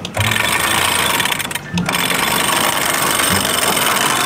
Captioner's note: pipe sound